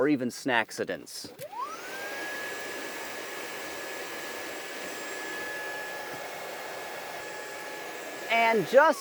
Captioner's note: vacuum cleaner sound